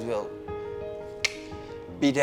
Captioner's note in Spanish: clickeo de lengua